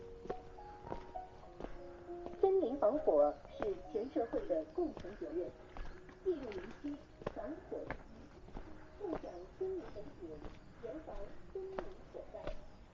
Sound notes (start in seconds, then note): 2.3 broadcasting sound